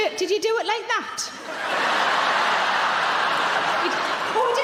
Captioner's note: audience laughing